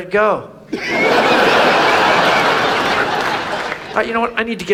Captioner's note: audience laughs